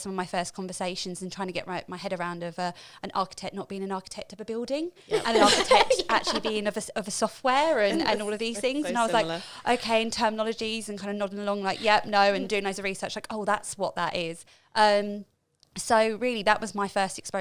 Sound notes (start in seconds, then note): 5.1 laughing